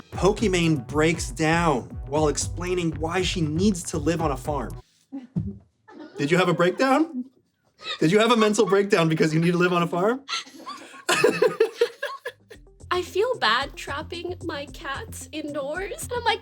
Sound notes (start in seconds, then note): 10.2 laughter